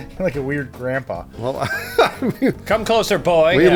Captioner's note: laughing